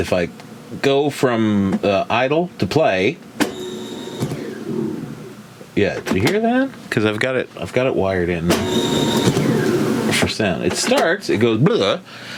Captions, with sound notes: if I go from idle to play, (tape recorder whirring) yeah, did you hear that? 'Cause I've got it wired in. (tape recorder whirring) It starts, it goes blah,